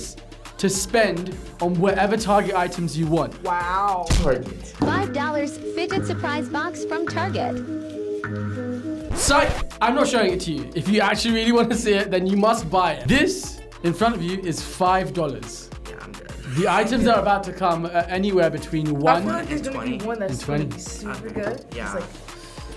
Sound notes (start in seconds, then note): 9.1 record scratches